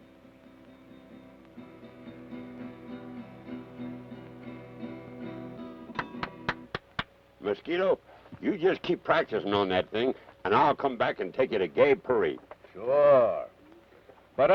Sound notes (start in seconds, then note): 0.0 rudimentary acoustic music; 5.9 Carney applauds